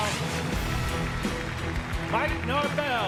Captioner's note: dramatic music; audience applauds